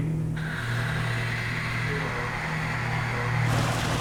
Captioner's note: hissing